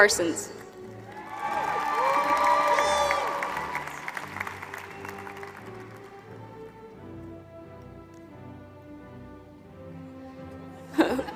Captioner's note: applause